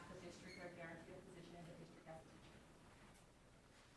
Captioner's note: speaking faintly